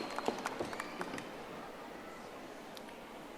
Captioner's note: audience applauding